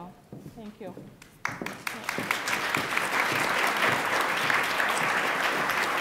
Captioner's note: attendees applaud